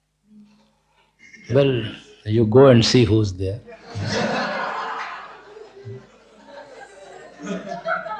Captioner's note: laughter